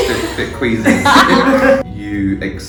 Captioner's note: laughs